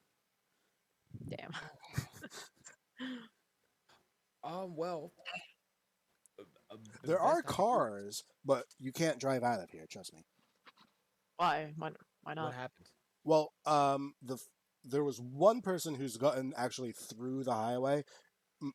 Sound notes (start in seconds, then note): 5.5 stammers